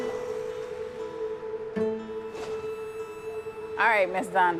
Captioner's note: street noise